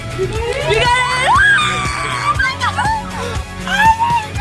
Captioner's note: cheering